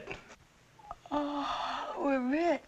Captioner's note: yawning softly